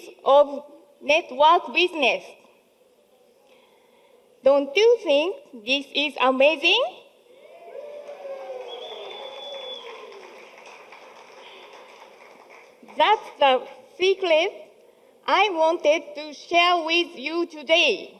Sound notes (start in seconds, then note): 7.4 audience cheering